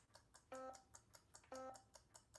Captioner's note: slide whistle sound effect